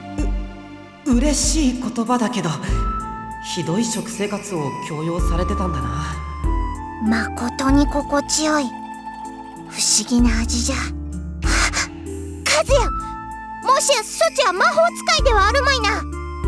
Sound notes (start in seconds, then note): 11.4 gasp